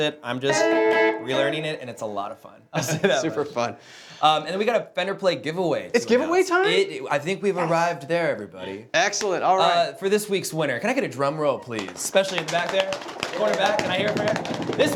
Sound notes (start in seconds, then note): 2.7 laughing; 11.7 applauding